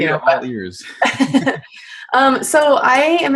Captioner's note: laughs